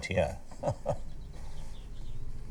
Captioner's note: laughing